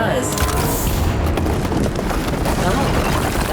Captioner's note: ominous music; building crumbling